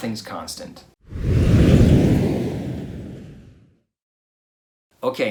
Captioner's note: air whooshing